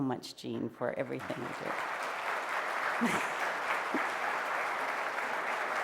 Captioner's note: applause